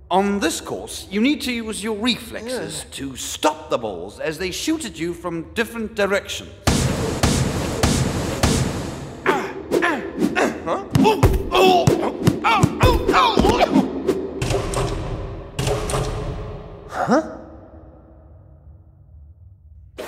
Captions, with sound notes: On this course, you need to use your reflexes to stop the balls as they shoot at you from different directions. (grunting) - Huh? (exclaims) - Huh?